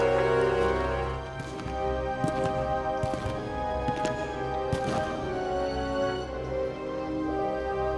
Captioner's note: footsteps approaching